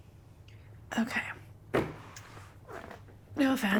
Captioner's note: hands thud